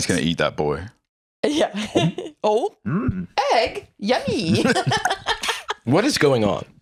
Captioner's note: gulps